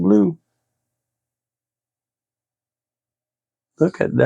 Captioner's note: silence